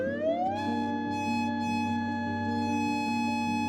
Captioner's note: siren blaring